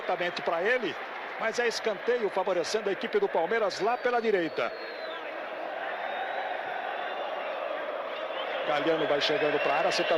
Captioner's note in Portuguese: aplausos